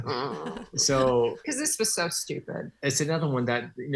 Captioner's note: laughing